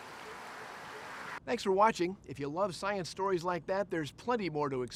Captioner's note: water rushing